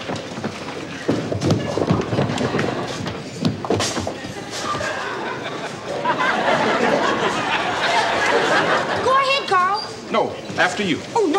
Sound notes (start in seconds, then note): 0.1 people chattering faintly; 1.1 pins crashing; 4.6 audience laughing